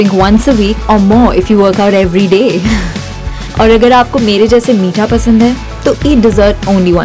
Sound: chuckles

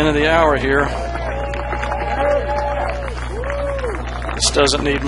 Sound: crowd clapping

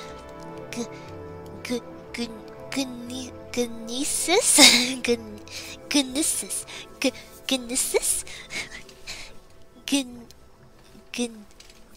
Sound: struggling to pronounce Gnisis

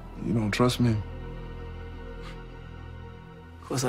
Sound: snorts

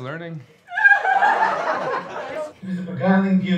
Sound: class cheering

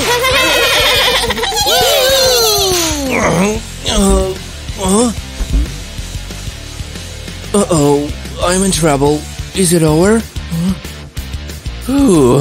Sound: screaming and laughing; grunting

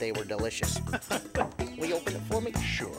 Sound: laughing

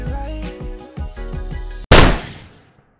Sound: gun shot

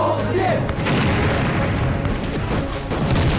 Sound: shooting; explosion

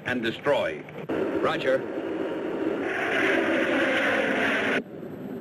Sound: planes roaring

